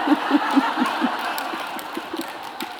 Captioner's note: laughter